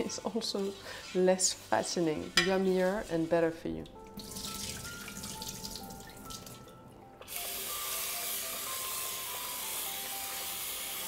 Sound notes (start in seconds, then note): 3.7 water trickling; 7.2 water running